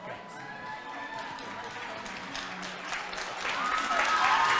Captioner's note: congregation applauding